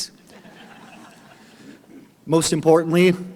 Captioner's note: audience laughing